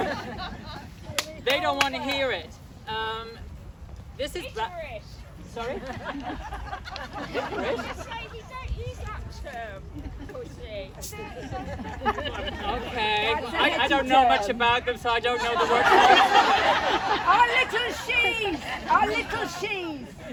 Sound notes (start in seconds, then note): 5.6 laughter